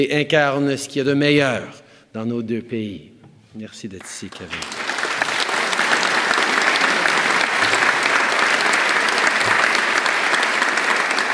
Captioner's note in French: Applaudissements